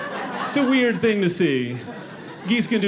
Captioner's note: audience laughing